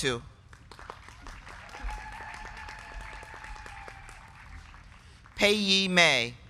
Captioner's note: crowd clapping; crowd cheering